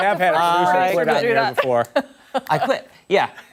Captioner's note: laughter